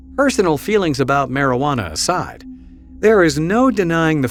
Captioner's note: voiceover